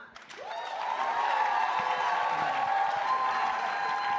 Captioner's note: audience cheers